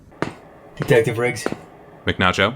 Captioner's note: ACE, with "cool" voice